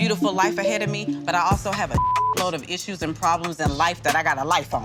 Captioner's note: beep